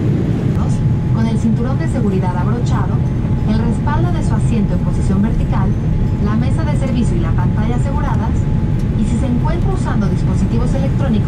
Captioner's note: flight announcement in Spanish